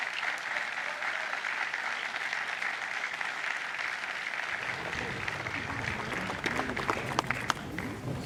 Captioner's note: applause